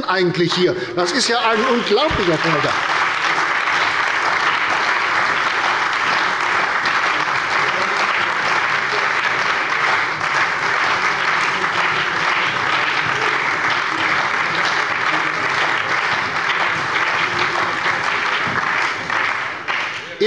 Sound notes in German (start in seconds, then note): 4.5 Anhaltender Beifall bei der CDU und dem BÜNDNIS 90/DIE GRÜNEN